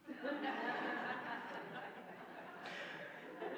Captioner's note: laughing